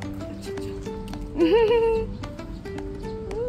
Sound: sniffing

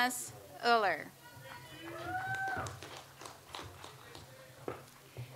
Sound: audience applauds

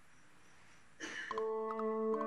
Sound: nanny coughs

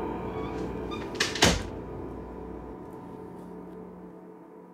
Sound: door closes

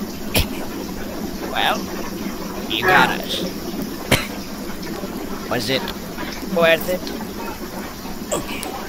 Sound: cough

